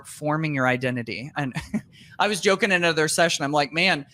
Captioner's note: laughs